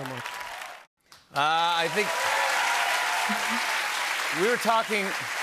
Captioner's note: applause; cheers and applause